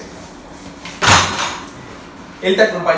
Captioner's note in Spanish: Golpe de la bicicleta en el piso